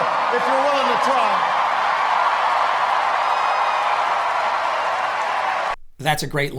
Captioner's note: crowd cheers